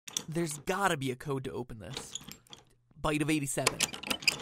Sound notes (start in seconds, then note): 1.8 SFX: Lock clinks; 1.8 SFX: Locks continue to clink